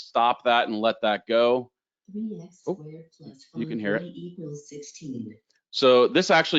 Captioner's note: computer Voice